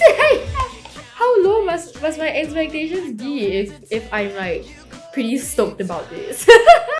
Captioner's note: laughs